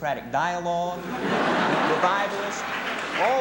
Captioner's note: laughter